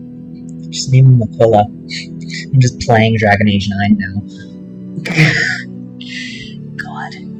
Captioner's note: laughter